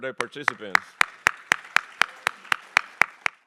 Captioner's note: applause